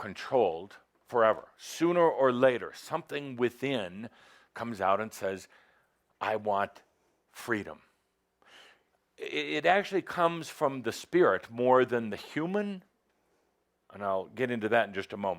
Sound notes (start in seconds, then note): none